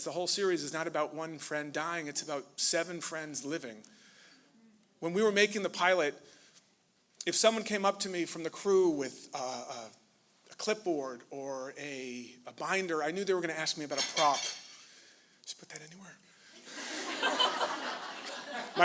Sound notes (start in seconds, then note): 13.9 dishes clattering; 16.6 laughter